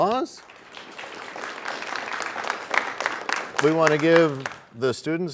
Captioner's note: applause